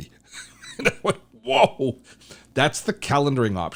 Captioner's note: laughs